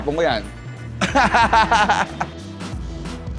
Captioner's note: laughs